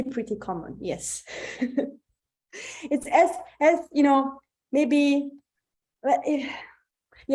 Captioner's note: chuckles